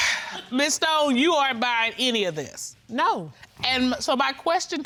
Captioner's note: sighs